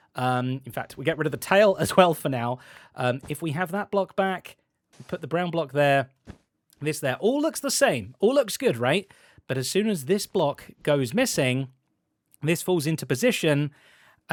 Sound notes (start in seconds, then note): none